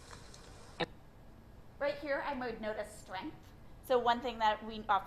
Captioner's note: voiceover